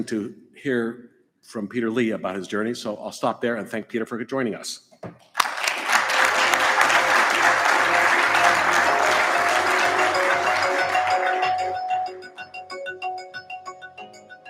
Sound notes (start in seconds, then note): 5.3 audience applauds; 5.6 upbeat music